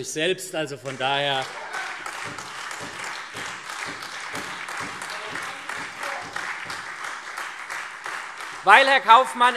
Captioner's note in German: Beifall